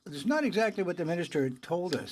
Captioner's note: speaking in french